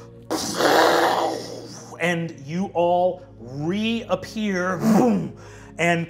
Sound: whooshes

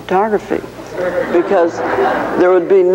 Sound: audience laughing

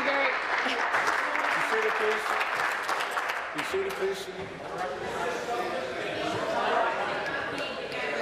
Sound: applause

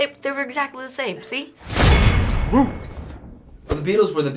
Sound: clank!

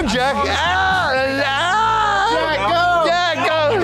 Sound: shrieks

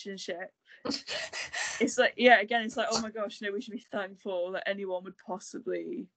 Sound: laughs

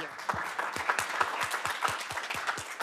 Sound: applause

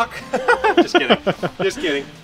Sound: laughter

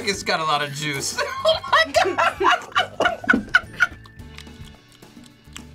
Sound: laughs

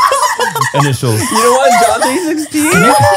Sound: everyone laughs

